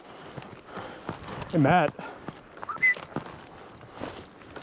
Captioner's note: whistle